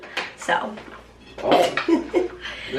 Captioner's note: laughing